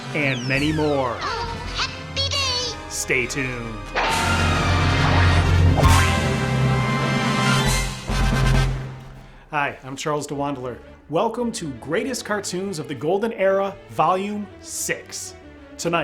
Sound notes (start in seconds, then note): 5.6 horseshoe bangs; 6.3 upbeat triumphant music